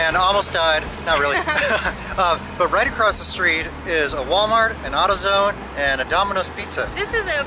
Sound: laughter

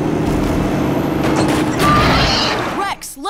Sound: screeching

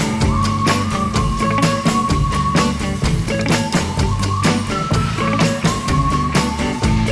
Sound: hens

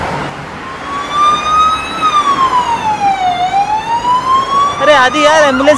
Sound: ambulance siren

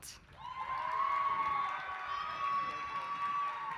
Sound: applause

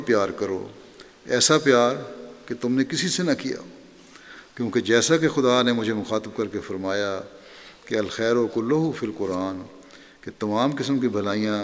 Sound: Arabic

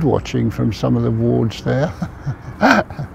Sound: laughs

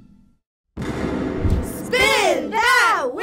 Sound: hammer slams; balloon booms

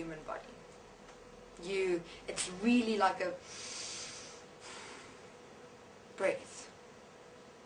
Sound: breathes in, breathes out

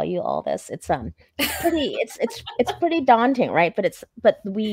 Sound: laughing

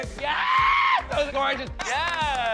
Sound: screams

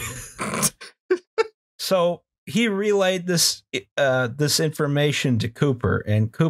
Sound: laughter

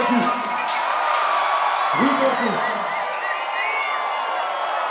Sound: crowd cheering

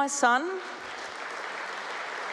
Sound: applause

